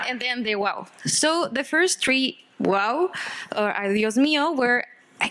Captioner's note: speaking Spanish